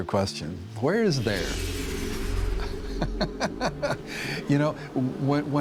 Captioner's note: laughs